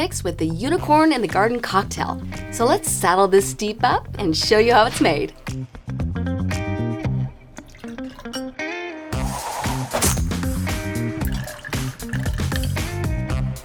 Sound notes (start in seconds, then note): 5.9 upbeat music; 9.2 lime splashing